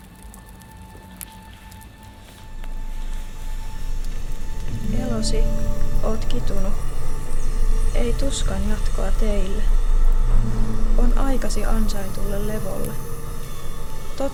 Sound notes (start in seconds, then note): 4.7 speaks in Muinein language